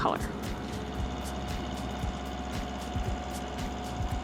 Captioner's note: engine running